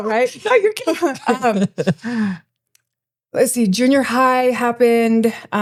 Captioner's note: laughing